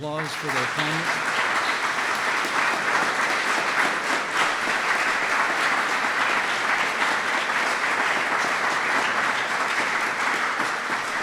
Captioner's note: applause